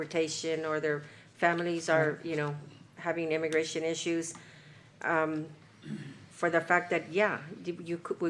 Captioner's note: clears throat